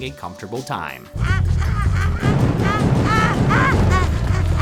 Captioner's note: repeatedly making sounds of pain